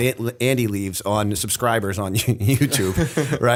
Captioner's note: chuckle